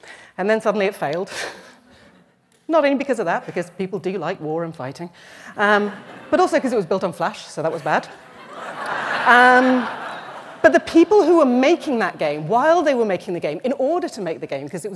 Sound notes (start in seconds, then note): 8.1 laughter